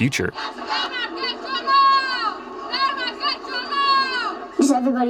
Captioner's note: kids yelling